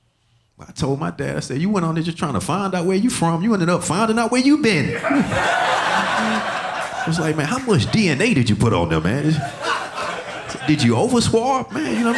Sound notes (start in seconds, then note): 4.8 audience laughing